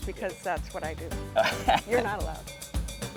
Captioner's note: laughing